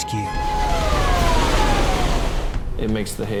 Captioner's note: alarm wails